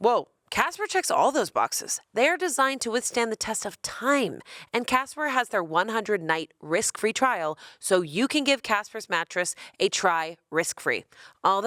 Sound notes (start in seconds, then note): none